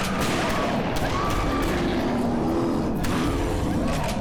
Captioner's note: screaming